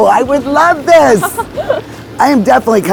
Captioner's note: laughing